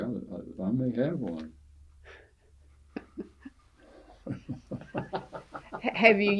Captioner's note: laughter